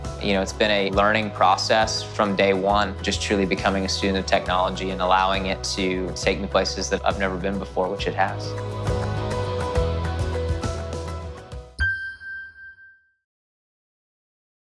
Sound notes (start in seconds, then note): 8.7 bright music; 11.7 high pitched tone